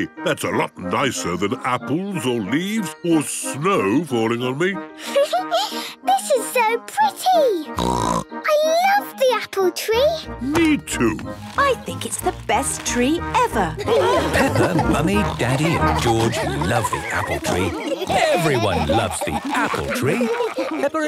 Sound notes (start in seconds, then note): 4.9 Peppa laughing; 7.8 snorting; 13.7 laughter